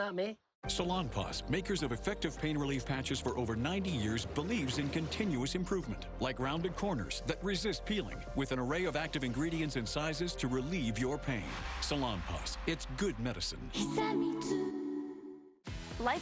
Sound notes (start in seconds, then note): none